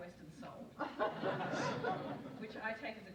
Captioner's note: audience laughs